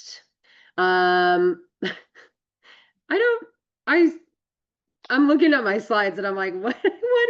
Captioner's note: laughs